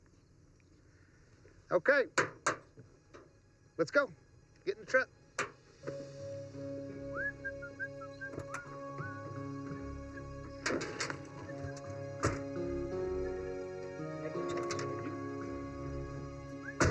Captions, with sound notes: - Okay. Let's go, get in the truck. (Miguel whistling) (gentle music)